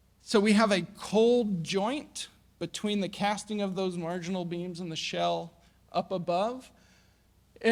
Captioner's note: none